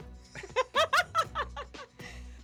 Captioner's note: laughter